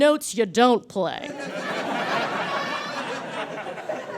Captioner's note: audience laughs heartily